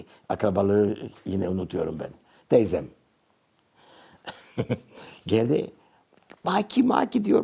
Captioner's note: in Turkish